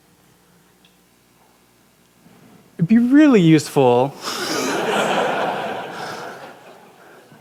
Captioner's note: laughter